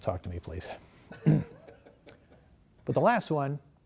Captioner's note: laughter